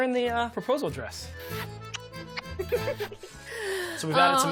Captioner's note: kissing, giggling